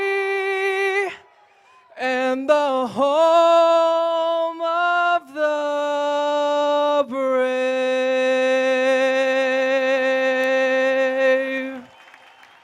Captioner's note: applause